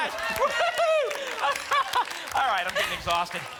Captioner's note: applause and cheering